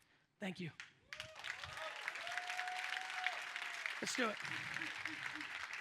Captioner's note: audience applauds